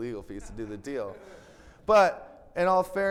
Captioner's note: attendees laughing